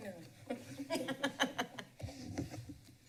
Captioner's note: laughs